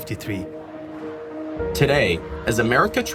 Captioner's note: chanting